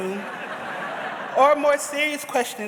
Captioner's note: audience laughs